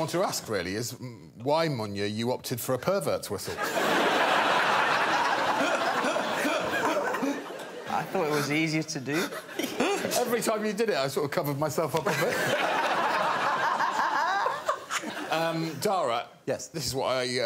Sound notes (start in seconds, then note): 3.5 laughter; 13.5 laughter